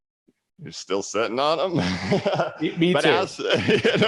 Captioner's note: laughs